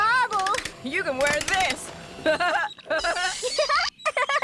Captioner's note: laughing; giggling